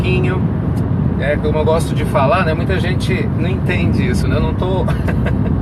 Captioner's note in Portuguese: risos